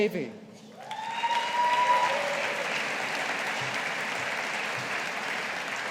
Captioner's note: audience applauding